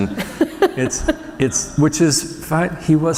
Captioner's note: laughter